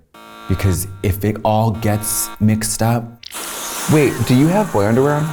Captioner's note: acid boiling